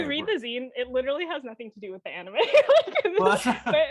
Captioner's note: laughing